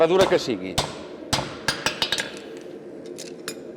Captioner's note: metallic hammer blows